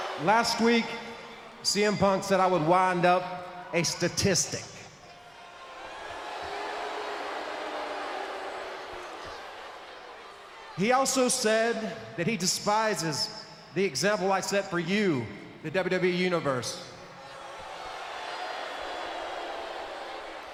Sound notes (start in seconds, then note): 5.6 crowd boos; 17.0 crowd boos